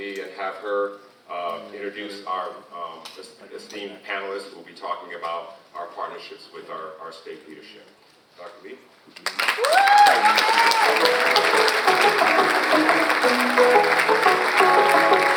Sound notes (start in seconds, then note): 9.2 audience applauds; 12.0 upbeat music plays